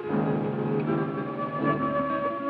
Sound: sirens

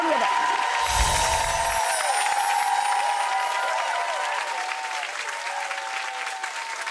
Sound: audience cheers; bells chime

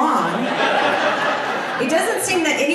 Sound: audience laughs

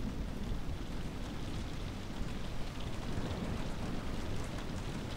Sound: rain splattering

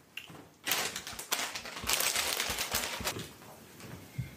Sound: bag rustles

